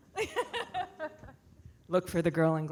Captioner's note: laughs